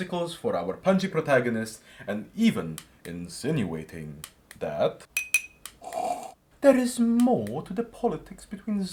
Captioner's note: tea clink; mini slurp